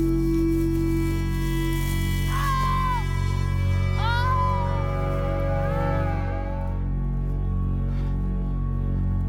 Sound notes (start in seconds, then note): 2.2 screaming